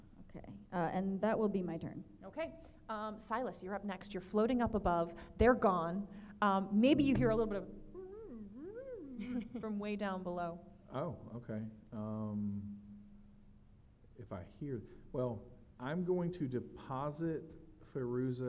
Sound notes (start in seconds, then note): 8.6 mumbles